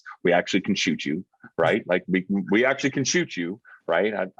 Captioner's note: chuckling